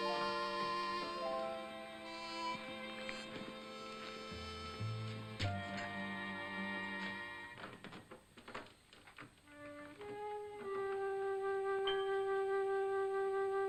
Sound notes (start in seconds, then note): 7.5 door locks; 9.6 ominous music